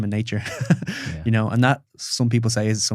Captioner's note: laughs